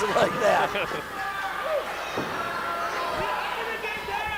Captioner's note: laughs; crowd yells